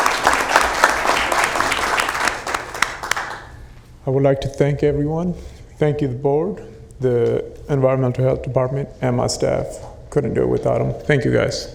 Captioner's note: applauding